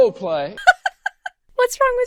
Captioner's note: laughs